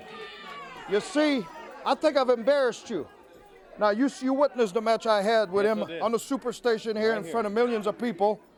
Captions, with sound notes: THE JOB. >> [CROWD CHATTER] >> YOU SEE, I THINK I'VE EMBARRASSED YOU. NOW, YOU SEE, YOU WITNESSED THE MATCH I HAD WITH HIM... >> YES, WE DID. >> ...ON THE SUPERSTATION